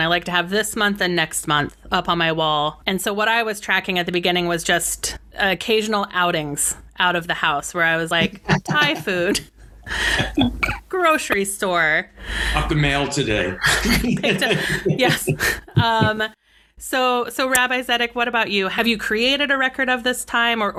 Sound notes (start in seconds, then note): 9.8 laughs; 13.5 all laugh